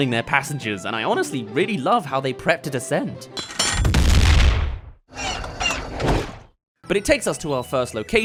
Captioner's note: explosion* *Drop